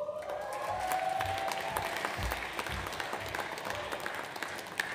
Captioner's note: audience applauds